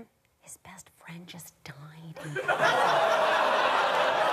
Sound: whispering; audience exclaiming

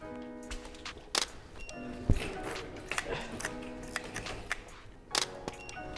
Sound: camera shutter clicks

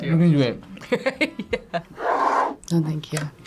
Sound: laughs

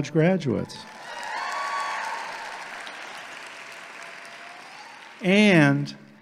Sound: audience applauding

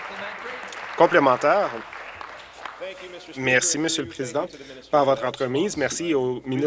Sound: applause

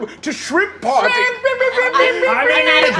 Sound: imitates air horn blaring

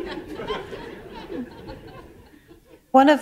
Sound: laughter

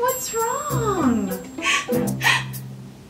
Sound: gasps dramatically

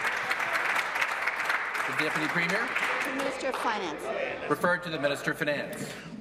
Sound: applause

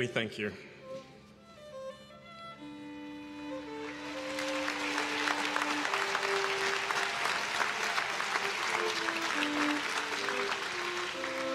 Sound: applause

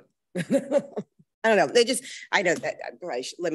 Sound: laughs

